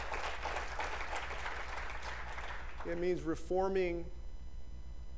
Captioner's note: applause